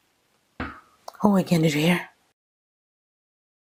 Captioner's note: knock